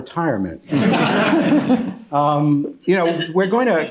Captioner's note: laughter